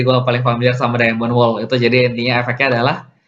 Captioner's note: reading effect in Indonesian